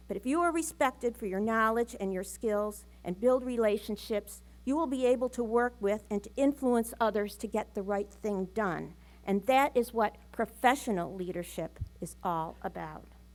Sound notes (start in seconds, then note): none